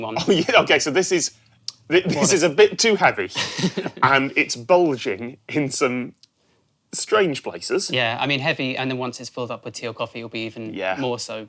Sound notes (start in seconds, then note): 3.3 both chuckle